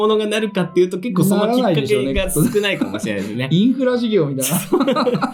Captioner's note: laughs